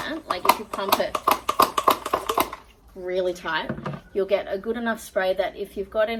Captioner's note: rhythmic and clattery pumping